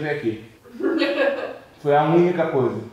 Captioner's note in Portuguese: risadas